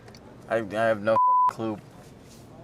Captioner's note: beep